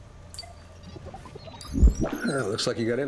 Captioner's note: digital chime; digital warbles